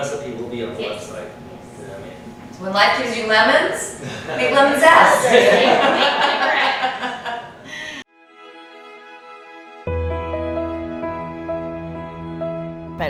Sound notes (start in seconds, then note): 4.0 all laughing; 8.2 smooth instrumental music